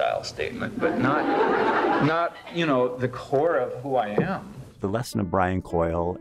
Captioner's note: laughter